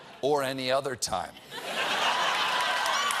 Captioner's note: laughter; cheers; applause